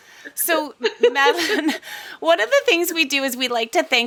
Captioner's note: laughs